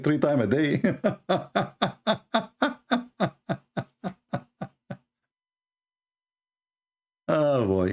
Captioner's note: Ketawa